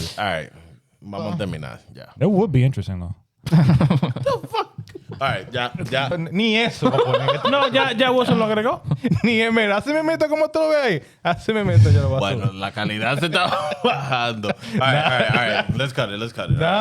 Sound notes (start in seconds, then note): 3.5 laughing; 6.9 speaking Spanish